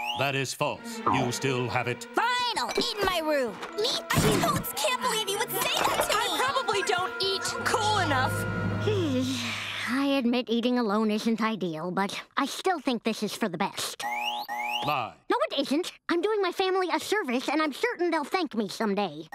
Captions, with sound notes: That is false, you still have it. - Fine, I'll eat in my room! - Me, too. I totes can't believe you would say that to me! I probably don't eat cool enough. [sigh] I admit eating alone isn't ideal, but I still think this is for the best. [alarm buzzing] Lie. No, it isn't! I'm doing my family a service, and I'm certain they'll thank me someday.